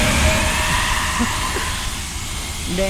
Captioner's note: chuckle